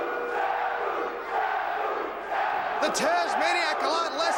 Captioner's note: crowd cheering